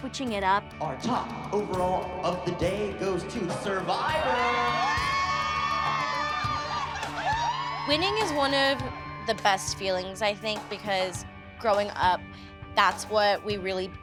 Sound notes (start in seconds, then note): 4.0 cheering